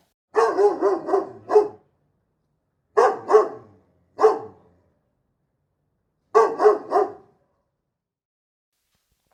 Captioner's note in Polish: Oryginalny dźwięk psa